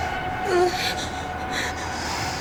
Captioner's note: breathing nervously